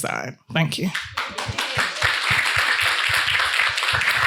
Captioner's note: attendees clapping